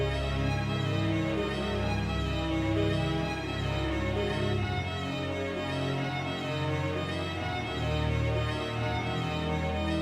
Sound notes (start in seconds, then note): none